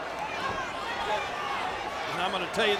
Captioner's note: audience chattering